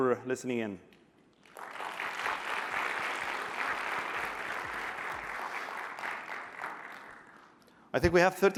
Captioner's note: applause